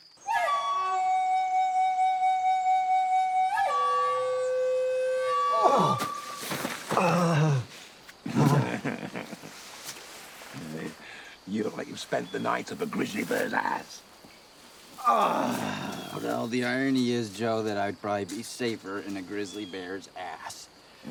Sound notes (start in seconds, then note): 6.9 Hatfield groans; 8.2 Joe laughs; 15.0 Hatfield groans loudly